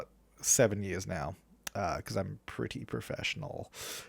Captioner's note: sarcastically